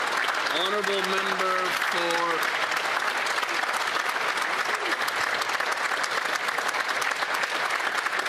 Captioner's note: applause